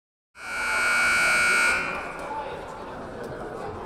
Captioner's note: siren blaring